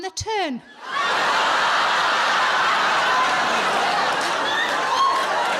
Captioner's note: audience laughing